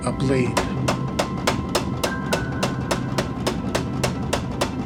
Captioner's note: power hammer pounding